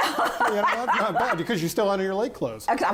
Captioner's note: laughs